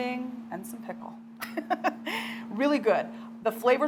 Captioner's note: laughing